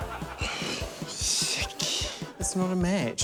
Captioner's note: sighs